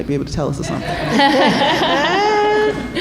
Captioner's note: laughter